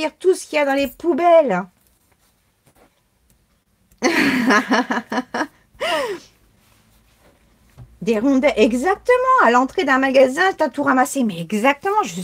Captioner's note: laughs